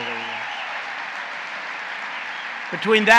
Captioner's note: applause